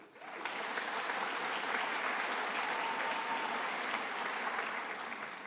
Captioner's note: attendees applauding